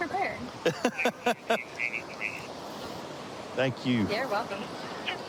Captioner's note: laughing